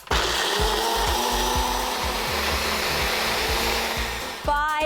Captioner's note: food processor whirring